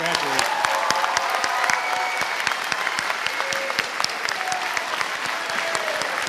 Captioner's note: audience applauding and cheering